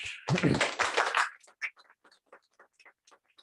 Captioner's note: applause